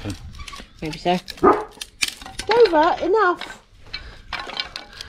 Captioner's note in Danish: hund Bark